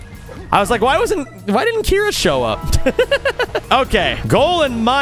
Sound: laughs

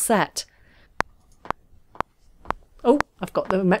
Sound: faded ticking

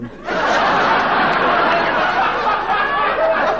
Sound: audience laughing

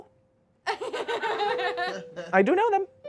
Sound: audience laughing

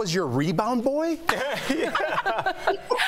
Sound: laughter

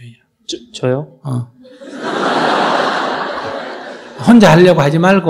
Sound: audience Laughter

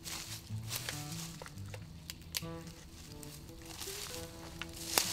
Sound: leaves rustling

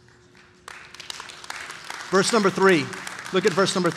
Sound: congregation applauding

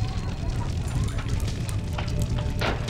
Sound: fire burning

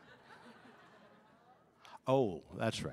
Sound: audience laughing

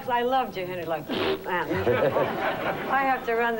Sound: snort

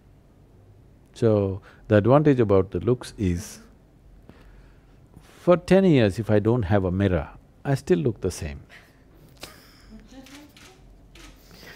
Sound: laughter

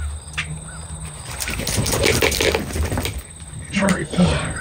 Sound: shaking

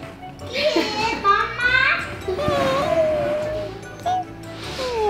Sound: baby mumbling

